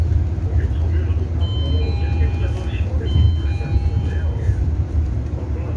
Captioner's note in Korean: 하차벨 소리